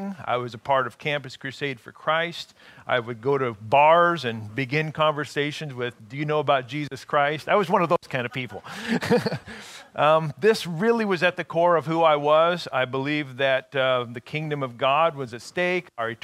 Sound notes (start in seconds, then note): 8.3 laughing